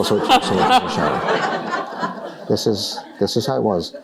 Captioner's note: laughter